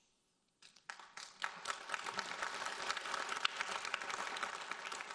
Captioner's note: audience applauding